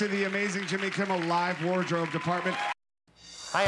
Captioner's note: applause